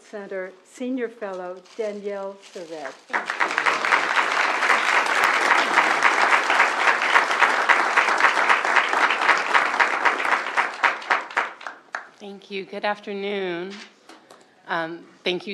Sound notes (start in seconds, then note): 3.0 applause